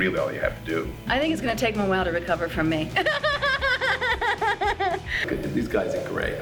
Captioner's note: laughs